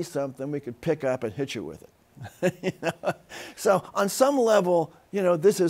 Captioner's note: laughs